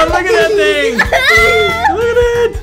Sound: child laughing

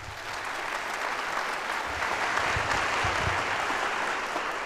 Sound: audience applauds

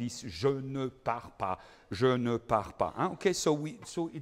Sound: speaking in foreign language

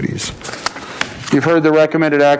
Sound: paper rustling

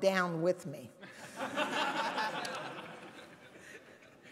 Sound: laughter

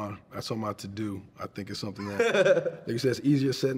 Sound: laughing

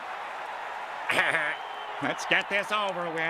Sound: weak chortle

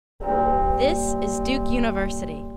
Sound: bell tolling

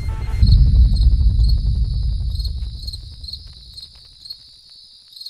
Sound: crickets chirping

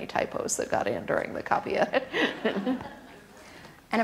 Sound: laughs

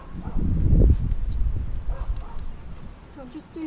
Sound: dog barking

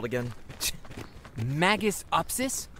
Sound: scoffs

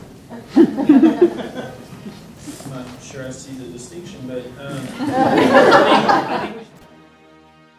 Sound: laughter

